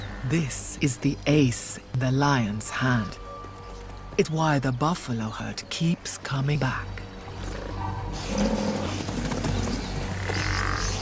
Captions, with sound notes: This is the ace in the lions' hand. It's why the buffalo herd keeps coming back. (snorting)